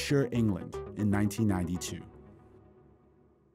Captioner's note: soundbite of archived recording